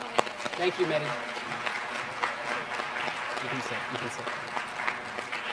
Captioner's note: applause